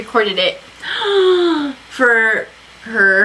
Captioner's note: gasps